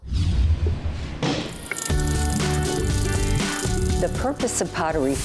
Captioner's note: machine whirring